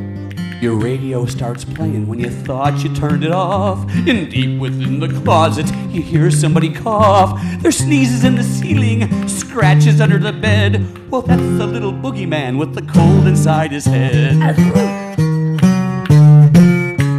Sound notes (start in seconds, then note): 0.2 singing; 14.4 sneezing; 15.4 playing guitar